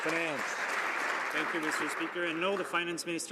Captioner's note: some Applause